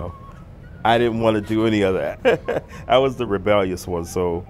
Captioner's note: laugh